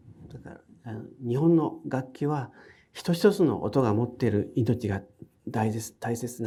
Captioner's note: speaking in foreign language